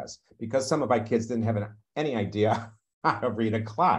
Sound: chuckles

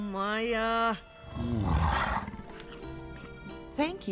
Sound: giant cat grunting

